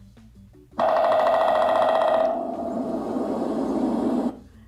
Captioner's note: woodpecker pecking